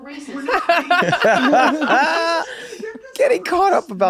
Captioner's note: they laugh